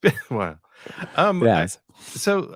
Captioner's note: laughing